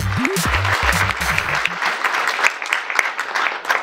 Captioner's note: applause